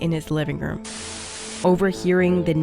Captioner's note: static hissing